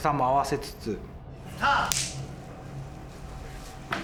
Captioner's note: film slate claps